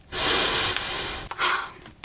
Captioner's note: inhales